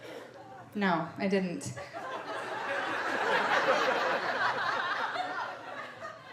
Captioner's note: audience laughing